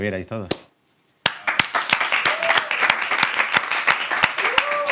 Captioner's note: applause